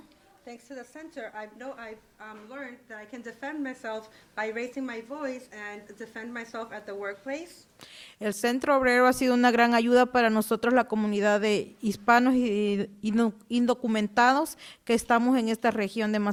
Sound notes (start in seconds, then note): 8.3 speaking Spanish